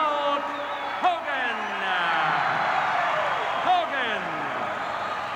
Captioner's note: crowd cheers